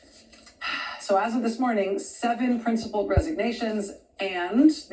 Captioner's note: sighs